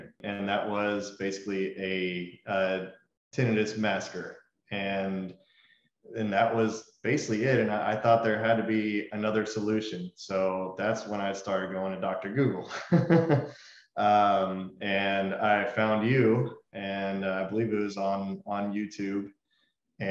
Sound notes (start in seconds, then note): 12.6 laughs